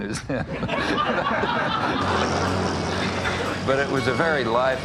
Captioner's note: audience laughing